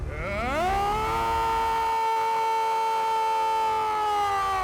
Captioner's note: screaming